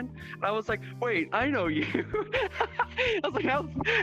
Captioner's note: laughing